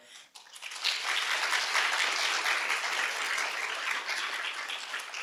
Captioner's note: audience clapping